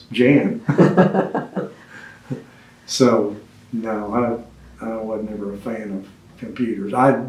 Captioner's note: laughs